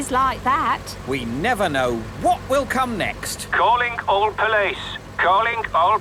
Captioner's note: radio